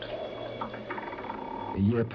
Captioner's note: bridge creaking